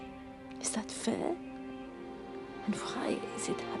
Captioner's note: none